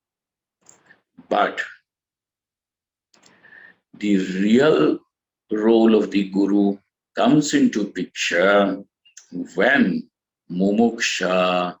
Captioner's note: sanskrit